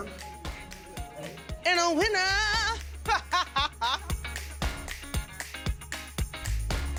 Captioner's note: laughs